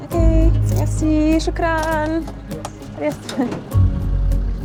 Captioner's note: speaks foreign language